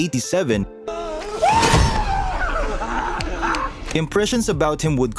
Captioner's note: Pennywise cackling